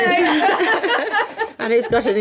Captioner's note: laughing